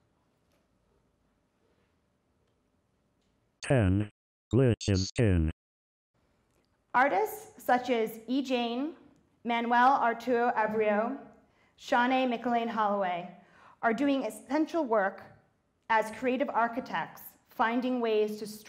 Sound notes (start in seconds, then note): 3.6 robot Voice